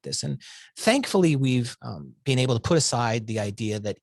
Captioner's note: none